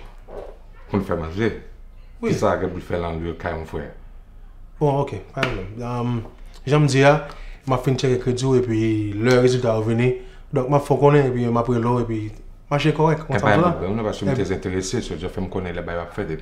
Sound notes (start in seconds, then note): none